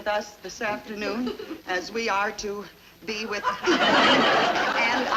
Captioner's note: people cheering